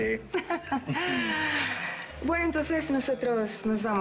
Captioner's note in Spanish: Risas